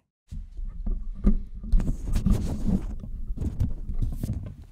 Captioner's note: microphone sounds